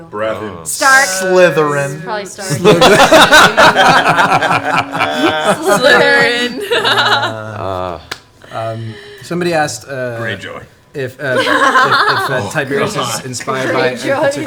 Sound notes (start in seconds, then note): 4.3 all laugh; 7.1 laughs